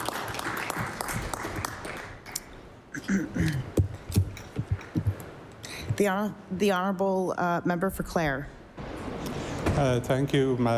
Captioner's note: applause